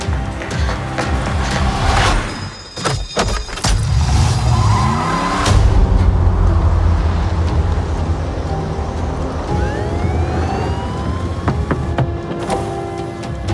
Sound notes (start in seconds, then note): 2.2 alarm ringing; 9.4 police siren